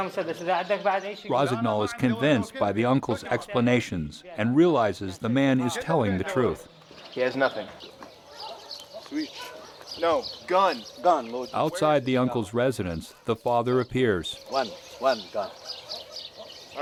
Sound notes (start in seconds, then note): 1.4 voiceover; 11.6 voiceover